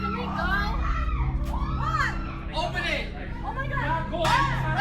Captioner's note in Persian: صدای جیغ